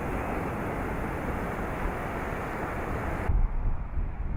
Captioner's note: ocean roars